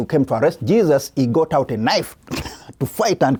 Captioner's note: chuckles